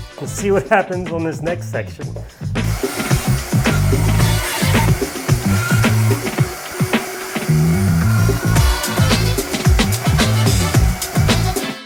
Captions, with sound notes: and see what happens on this next section. (power tool whirs) (funk music)